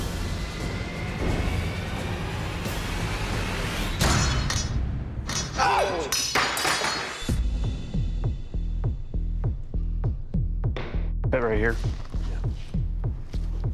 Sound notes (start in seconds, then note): 4.7 shout